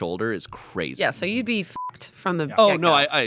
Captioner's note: beep